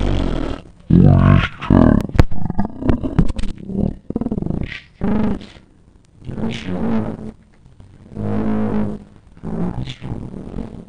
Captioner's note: glitch talk